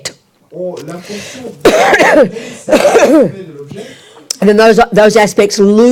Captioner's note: French